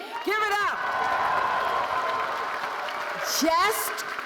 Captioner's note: audience cheering